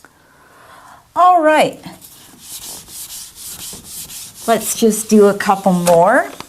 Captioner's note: eraser wiping board